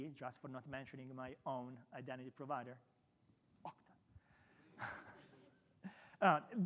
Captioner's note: chuckles